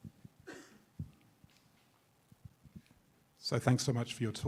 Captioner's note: attendee coughing